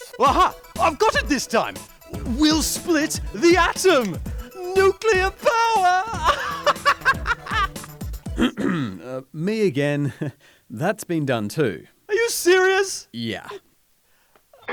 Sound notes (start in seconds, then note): 6.5 laughs; 8.2 clears throat